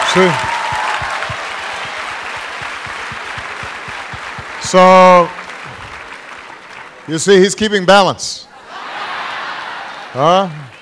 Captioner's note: applause; laughter